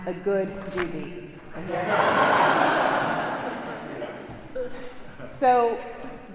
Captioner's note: congregation laughing